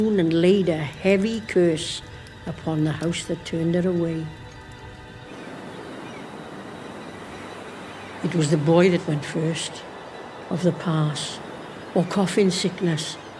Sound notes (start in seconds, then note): 5.3 seagulls & waves crashing